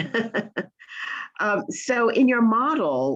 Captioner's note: laughs